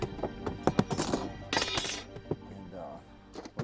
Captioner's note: metal ruler clangs